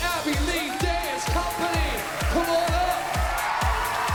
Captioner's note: cheering, applauding